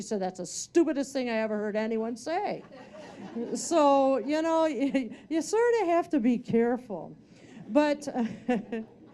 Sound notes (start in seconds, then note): 2.6 audience laughing